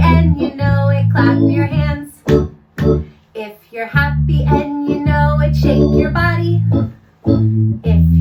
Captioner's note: clap, clap